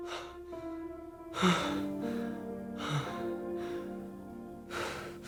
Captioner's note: Jon Re-Enactor sighing